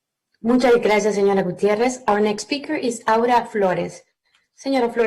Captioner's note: speaking spanish